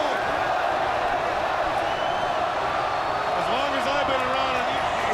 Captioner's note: crowd chattering